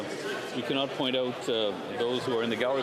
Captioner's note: none